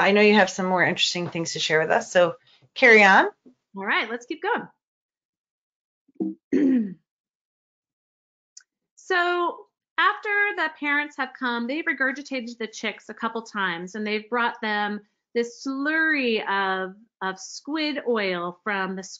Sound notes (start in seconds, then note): 6.3 clears throat